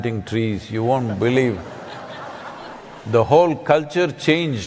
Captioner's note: laughter